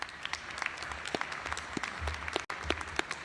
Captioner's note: applause